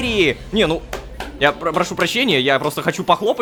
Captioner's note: claps